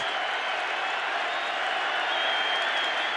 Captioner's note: cheering